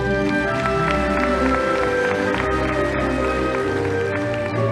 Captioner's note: audience applauding